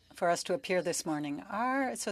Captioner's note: speaking French